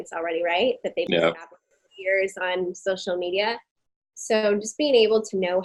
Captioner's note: audio distorting